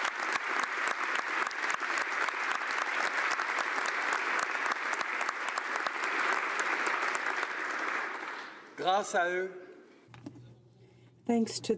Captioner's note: applause